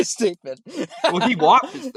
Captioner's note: both laughing